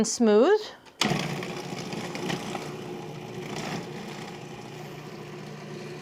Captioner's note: food processor whirring